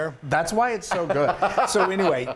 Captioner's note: laugh